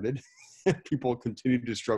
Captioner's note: laughing